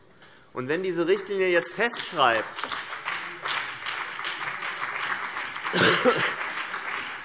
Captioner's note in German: Beifall BÜNDNIS 90/DIE GRÜNEN und vereinzelt CDU